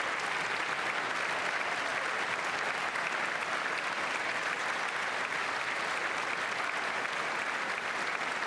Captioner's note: applause